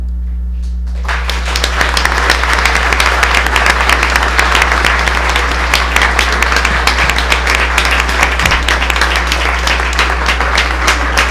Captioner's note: applause